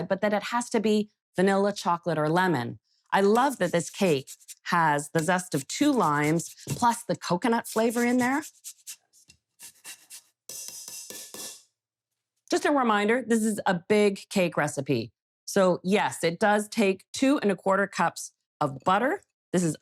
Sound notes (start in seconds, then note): 4.0 lime shredding; 10.5 zester tapping